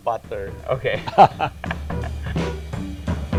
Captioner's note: laughs